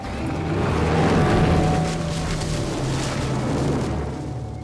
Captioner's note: machine roaring